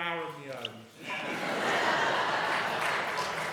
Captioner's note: audience laughing